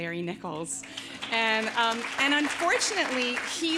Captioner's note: audience applauding